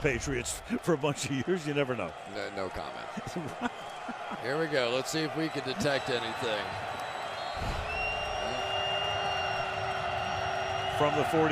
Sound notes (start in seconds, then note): 3.1 laughs; 8.6 whistle blowing